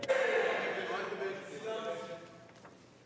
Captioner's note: speaking french